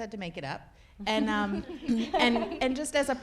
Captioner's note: people laughing